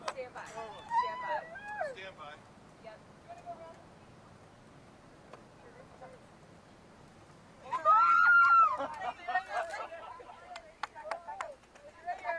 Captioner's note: cheering